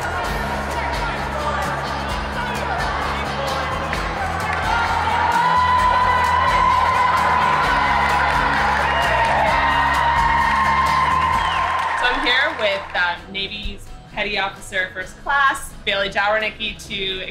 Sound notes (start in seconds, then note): 9.1 cheering